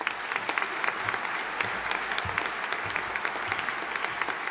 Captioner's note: audience applauding